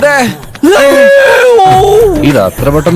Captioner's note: screams